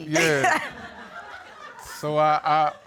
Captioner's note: laughter